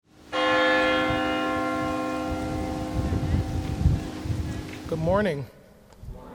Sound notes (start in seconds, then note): 0.3 church bell rings